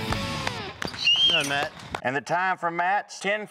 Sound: whistling

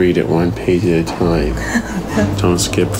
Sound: giggles

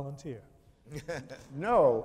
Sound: chuckles

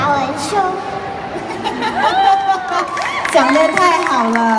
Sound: all laughing

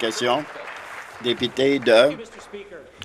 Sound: applause

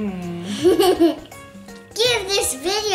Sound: giggling

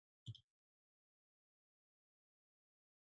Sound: clicks

